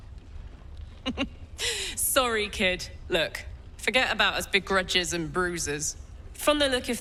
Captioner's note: chuckling